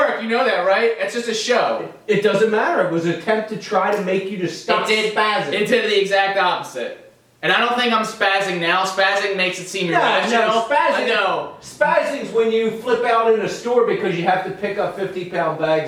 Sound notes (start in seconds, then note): 10.5 arguing